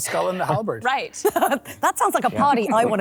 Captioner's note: laughs